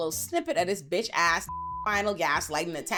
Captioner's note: beep